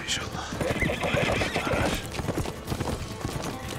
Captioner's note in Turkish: At kişneme sesi